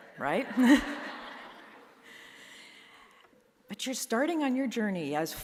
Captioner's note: audience chuckling